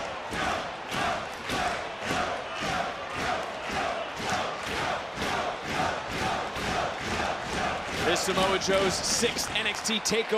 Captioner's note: audience chanting "joe"